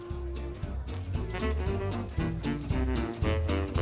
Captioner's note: muffled chatter